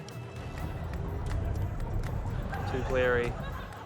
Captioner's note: engine whirrs